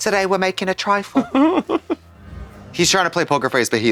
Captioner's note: british Accent; Kim zizzes